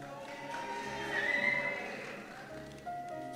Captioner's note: cheers